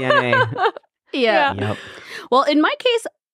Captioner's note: laughing